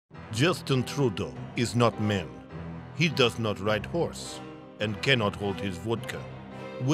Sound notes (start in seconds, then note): 0.3 Russian accent